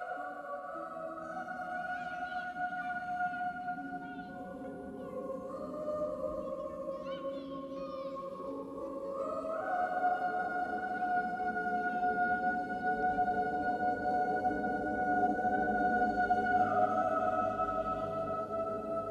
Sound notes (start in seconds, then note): 1.8 children shouting, laughing